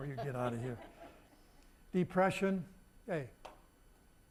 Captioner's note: audience laughing